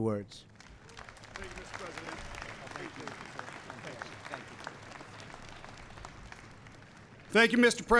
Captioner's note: applause